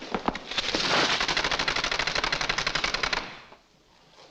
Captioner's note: blind rattles